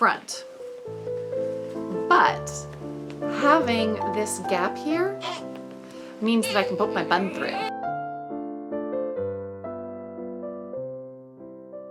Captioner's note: baby cooing